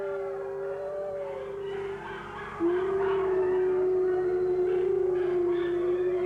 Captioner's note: full-throated wolves bark and howl persistently